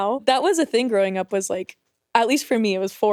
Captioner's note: none